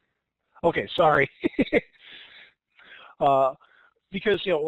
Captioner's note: chuckles